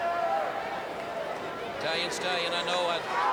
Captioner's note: crowd chatter